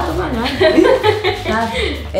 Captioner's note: laughing